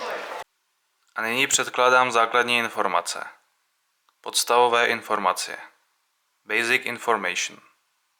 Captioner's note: in Czech, English and Polish